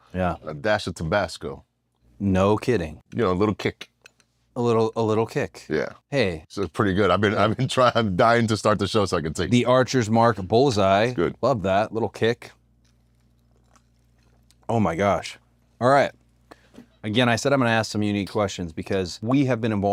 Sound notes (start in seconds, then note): 7.4 laugh